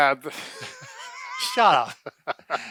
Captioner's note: both laugh